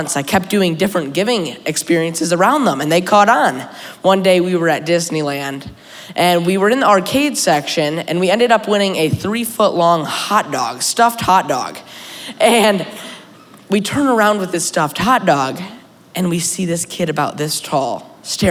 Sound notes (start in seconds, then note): 12.3 laughter